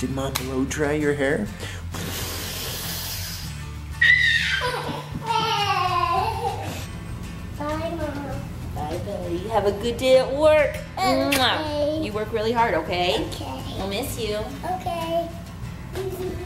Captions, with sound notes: Did Mom blow-dry your hair? (huffs and puffs) (shrieks happily, giggles) - Bye Mom. - Bye buddy, you have a good day at work. (kisses) You work really hard, okay? - Okay. - I'll miss you. - Okay.